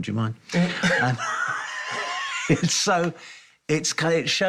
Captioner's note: laughs